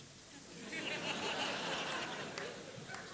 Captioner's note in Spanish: risas